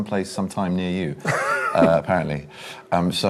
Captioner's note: laughs